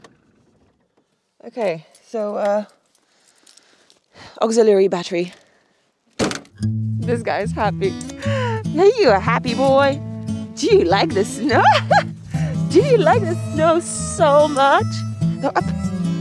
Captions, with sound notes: Okay, so auxiliary battery. This guy's happy. Know you are a happy boy. Do you like the snow? (laughs) Do you like the snow so much? Yes.